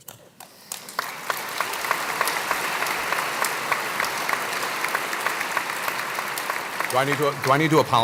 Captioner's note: applause